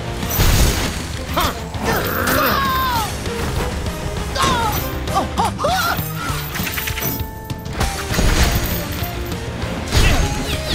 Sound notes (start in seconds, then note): 0.2 crashing; 4.3 groaning